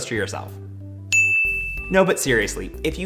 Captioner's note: dings